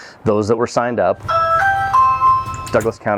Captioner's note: doorbell chimes